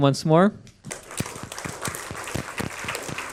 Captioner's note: applause